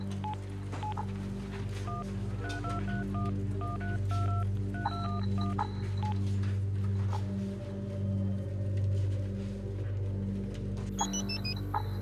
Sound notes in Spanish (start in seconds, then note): 4.7 Sonido al marcar